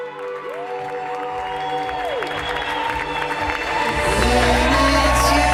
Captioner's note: wedding guests applaud